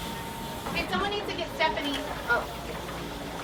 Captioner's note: voiceover